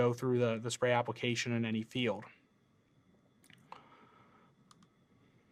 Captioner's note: computer mouse clicking